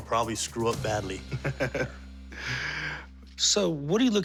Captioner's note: laughs